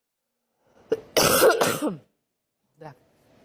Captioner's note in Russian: мария ситтель кашляет